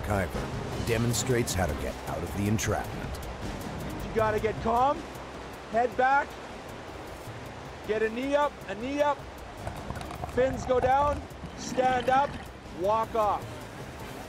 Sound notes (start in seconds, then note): 7.7 voiceover